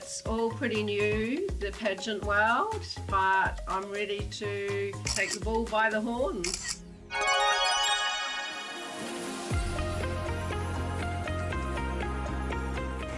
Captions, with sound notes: It's all pretty new, the pageant world, but I'm ready to take the bull by the horns. (camera clicking) (cheerful music) (soft music)